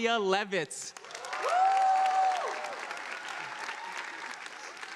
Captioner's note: audience applauding